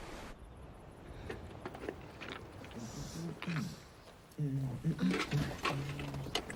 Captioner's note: clattering; man humming